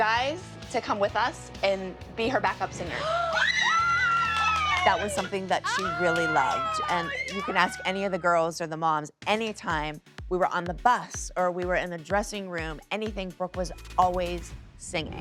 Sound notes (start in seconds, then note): 3.0 shrieking joyfully